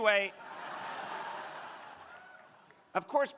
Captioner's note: crowd laughing